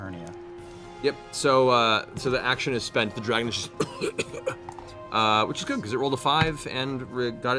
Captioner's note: coughing